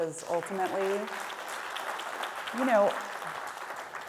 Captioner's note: audience clapping